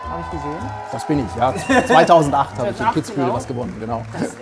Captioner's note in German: Jubel